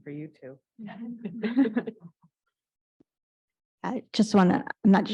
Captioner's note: panel laughs